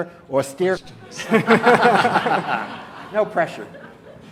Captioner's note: laughter